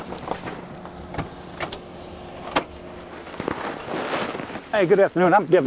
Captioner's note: trash clanking; door handle clicking